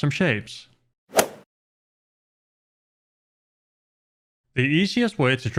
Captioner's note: golf swing sound effect